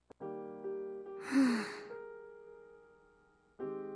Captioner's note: sigh